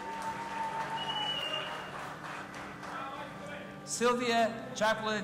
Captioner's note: audience applauding and cheering